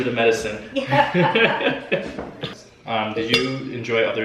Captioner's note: laughing